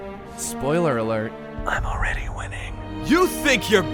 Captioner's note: whispers